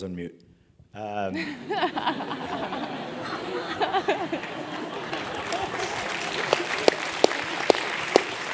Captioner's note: laugh; applause